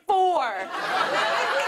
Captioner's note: laughter